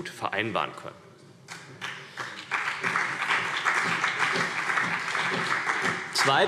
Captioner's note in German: Beifall CDU und BÜNDNIS 90/DIE GRÜNEN